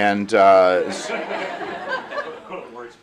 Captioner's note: laughter